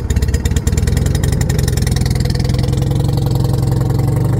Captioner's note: engine speed picks up